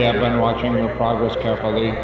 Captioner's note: robotic Voice